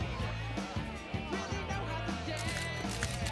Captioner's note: shutter Clicking